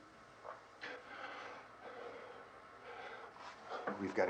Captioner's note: none